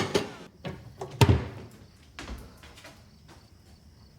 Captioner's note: crickets chirping in the distance